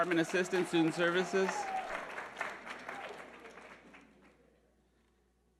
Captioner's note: audience applauding